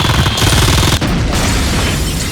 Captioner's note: gunfire